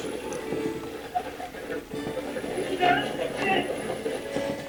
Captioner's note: radio channel changing